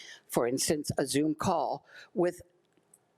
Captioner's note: none